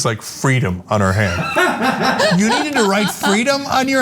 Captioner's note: laugh